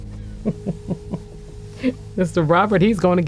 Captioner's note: laughing